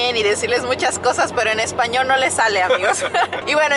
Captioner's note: both laugh